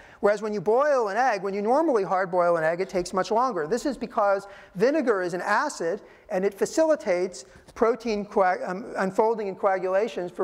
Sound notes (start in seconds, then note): none